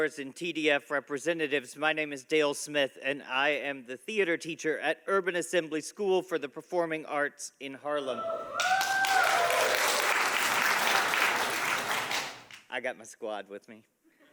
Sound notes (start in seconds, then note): 9.7 audience applauding